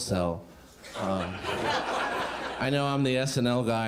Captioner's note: crowd laughing